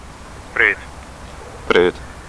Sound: on the phone

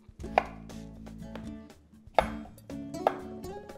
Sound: knife chopping

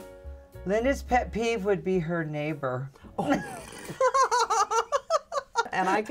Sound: laughter

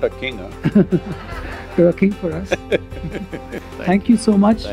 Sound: laughter; Sadhguru laughs

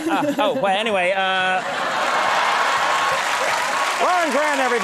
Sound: laughter and clapping

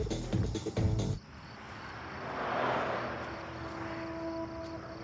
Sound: cars passing; crickets chirping

